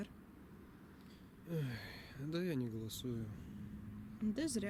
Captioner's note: sighs